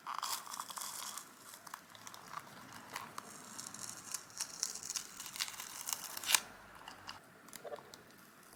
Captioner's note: peeling sounds continue